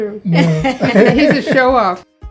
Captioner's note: laughs